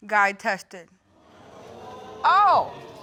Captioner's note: audience exclaiming